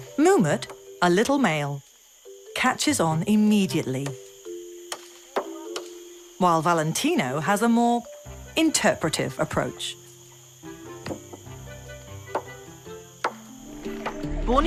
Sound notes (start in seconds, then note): 0.0 bright music; 0.0 coconut hitting wood; 4.9 coconut hitting wood; 12.2 coconut hitting wood